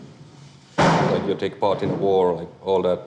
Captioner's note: door slams